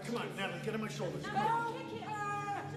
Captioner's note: screaming